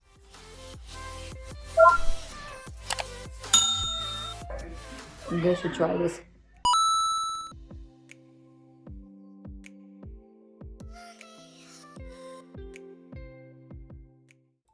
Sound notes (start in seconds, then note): 0.0 blip; 3.5 mouse clicks, and bell ringing; 6.7 coin drop